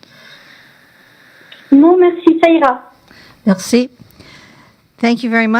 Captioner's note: speaking French